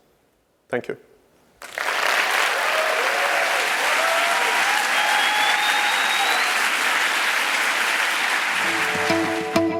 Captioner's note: applause